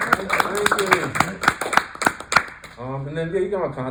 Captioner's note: applause